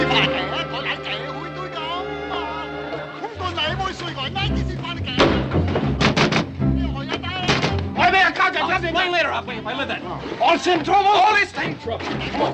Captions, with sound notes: (man shouts in Chinese) (shouting in Chinese) I'll explain later, Hop Ling, if I live that long. All the same trouble? All the same trouble.